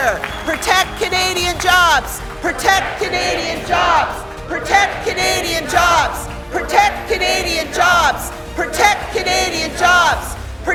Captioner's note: chanting